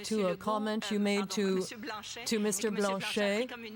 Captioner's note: speaking French